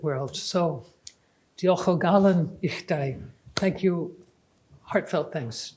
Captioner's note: speaking welsh